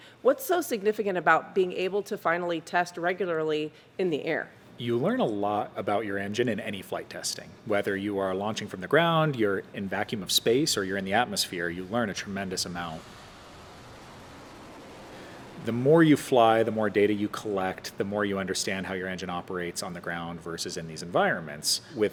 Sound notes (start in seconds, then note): 12.6 rocket whooshing